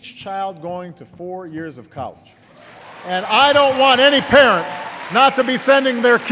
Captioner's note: applause